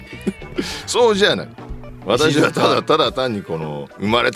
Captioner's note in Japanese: 笑い